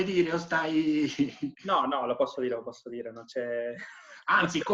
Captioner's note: laughing